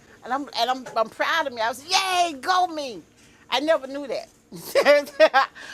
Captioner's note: laughs